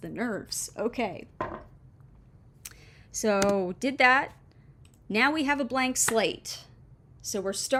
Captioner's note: clunk of mug setting down